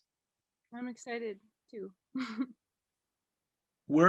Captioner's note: laughs